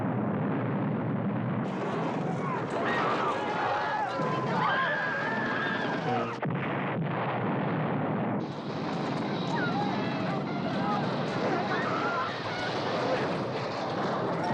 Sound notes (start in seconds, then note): 2.2 screaming; 6.9 chattering, Screaming Continue